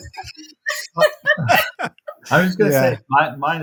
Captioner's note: all laugh